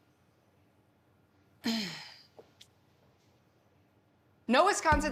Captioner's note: sighs